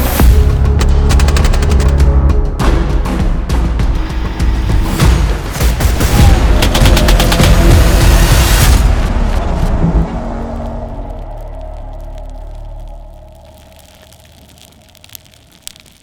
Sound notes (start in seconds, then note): 0.1 dynamic music playing; 0.8 sounds of gunfire; 4.1 sounds of gunfire; 4.1 tense music playing; 8.5 sound of a campfire